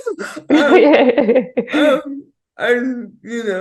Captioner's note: both laughing